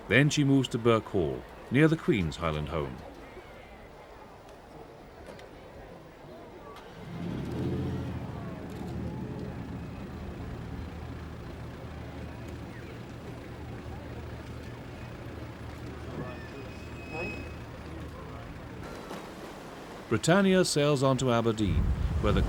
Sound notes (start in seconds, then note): 6.9 car engine rumbling; 12.8 distant chattering